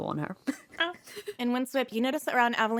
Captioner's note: laughs